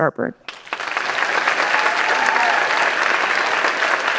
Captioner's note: applause